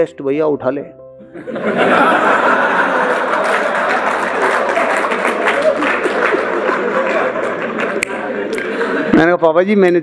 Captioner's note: laughs and applauses